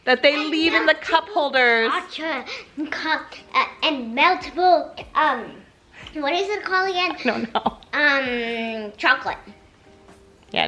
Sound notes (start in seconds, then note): 2.4 mumbles; 7.2 laughing